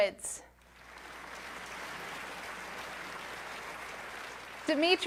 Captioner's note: applause